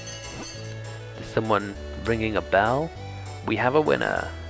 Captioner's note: bell ringer